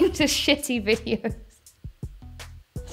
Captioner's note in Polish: Piękny śmiech